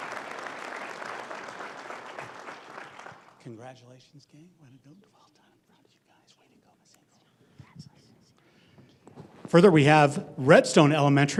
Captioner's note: applause